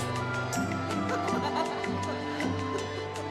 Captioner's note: laughing